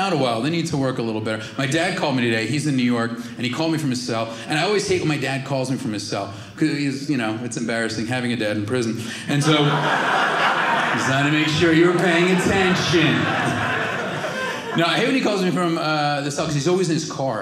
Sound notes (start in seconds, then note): 13.3 audience laughing